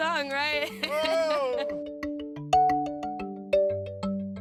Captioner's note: laughing